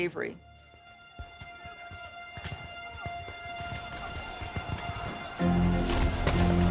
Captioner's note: somber music; weapons firing